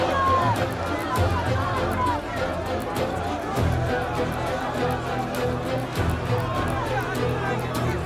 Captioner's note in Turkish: Kalabalık bağrışma sesleri